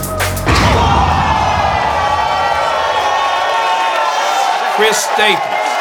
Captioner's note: spectators applauding